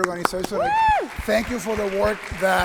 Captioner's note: audience clapping